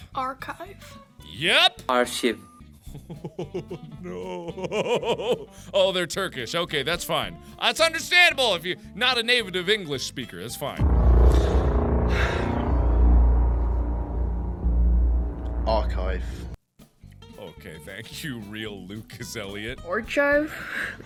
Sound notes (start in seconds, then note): 2.9 laughing; 10.6 sighs; 10.8 dramatic music